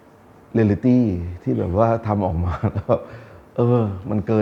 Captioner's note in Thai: หัวเราะ